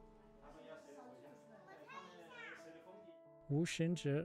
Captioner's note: locals speaking in foreign language